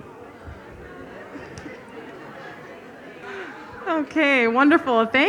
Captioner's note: audience chattering